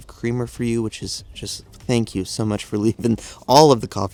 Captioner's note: chuckles